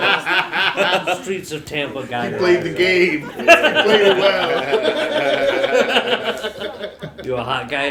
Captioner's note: laughter; laughter